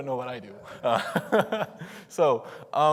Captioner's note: laughs